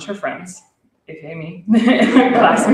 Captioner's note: laughter